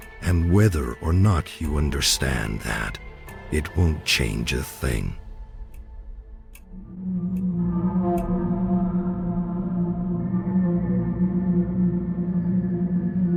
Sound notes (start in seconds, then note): 6.5 clock ticking; 10.6 tense music